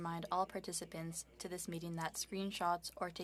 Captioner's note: speaking French